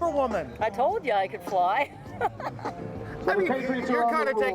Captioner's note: laughs